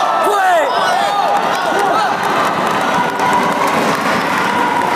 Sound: applause

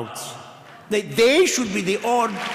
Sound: applause

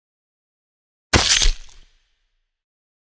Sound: sound of knife

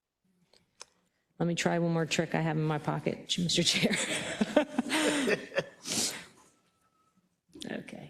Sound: laugh

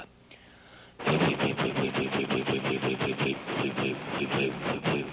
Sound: imitates engine

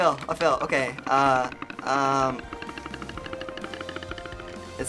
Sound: timer rattling

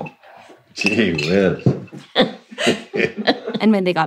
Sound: both laugh

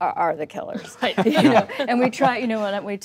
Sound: laughter

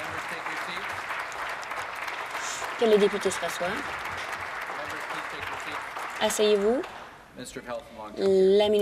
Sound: some Applause

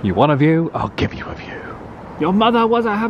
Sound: none

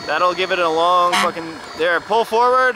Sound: horn honks

